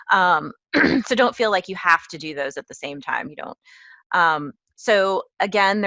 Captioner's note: cough